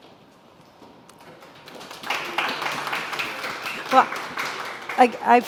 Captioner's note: audience applauding